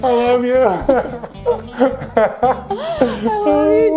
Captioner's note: laughs